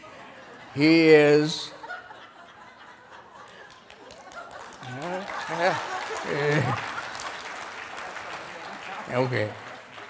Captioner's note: laughing and applauding